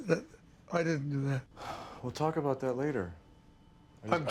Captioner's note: sighs